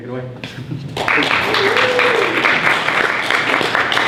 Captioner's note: people clapping